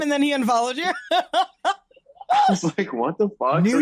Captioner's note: laughs